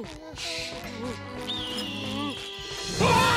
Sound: muttering nervously; eagle screech; both scream

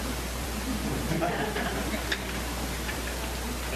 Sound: laughter

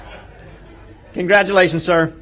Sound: laughter

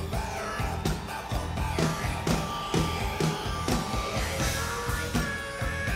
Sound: audience applauding

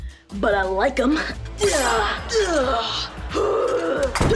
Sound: grunting

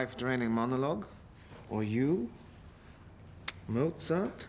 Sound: kisses

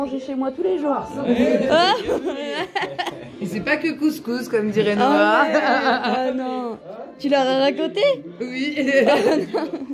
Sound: laughs

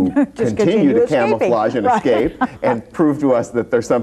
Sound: laughs

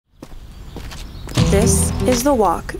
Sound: birds chirping

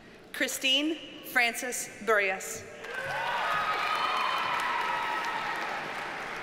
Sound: audience cheers and applauds

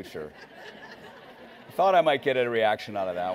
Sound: laughing

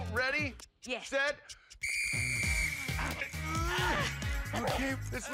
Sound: whistle blowing

